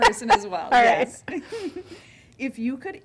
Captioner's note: laughing